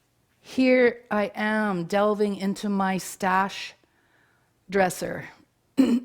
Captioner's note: clears throat